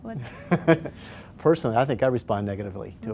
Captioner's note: laughs